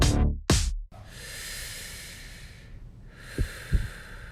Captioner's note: deep breaths